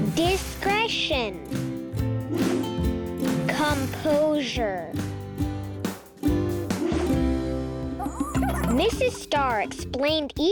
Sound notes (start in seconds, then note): 2.5 air whooshing; 6.9 air whooshing; 8.0 Mrs. Star chattering; 10.0 lively music